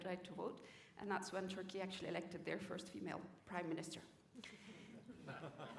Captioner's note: laughter